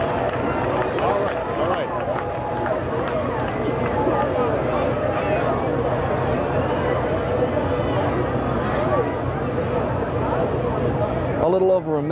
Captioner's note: public cheering